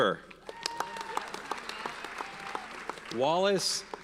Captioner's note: audience cheers and applauds